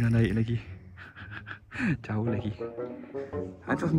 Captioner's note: laugh